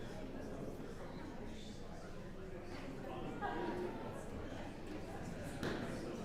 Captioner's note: indistinct audience chattering